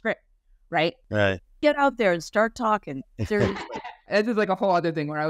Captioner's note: laughing